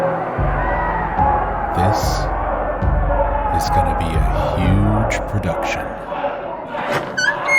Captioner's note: hushed